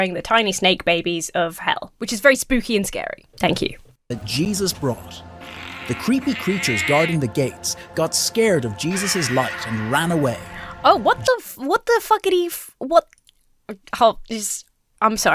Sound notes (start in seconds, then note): 5.4 demon grunts; 8.8 demons screeching; 14.0 stammers